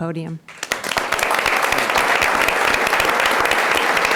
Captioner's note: audience applauds